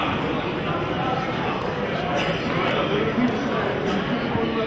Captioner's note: audience chattering